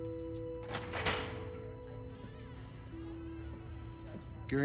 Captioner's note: door opening